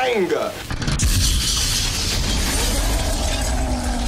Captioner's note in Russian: взрыв